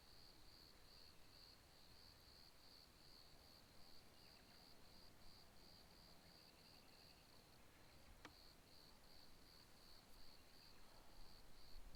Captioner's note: crickets chirping